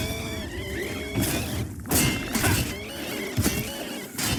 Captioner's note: wraith screeching; swords clashing